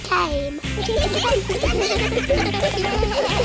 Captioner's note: giggling